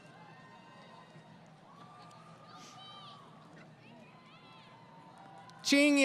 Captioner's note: crowd Cheering